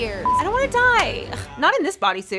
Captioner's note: beep